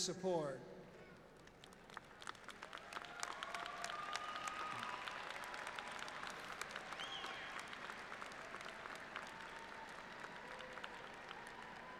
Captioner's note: applause